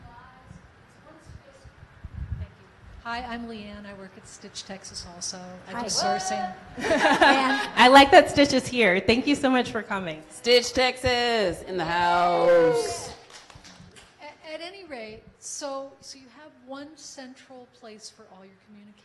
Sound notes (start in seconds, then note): 6.7 audience laughs; 13.1 clapping